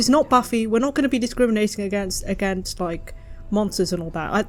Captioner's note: stutters